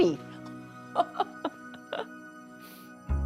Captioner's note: laughs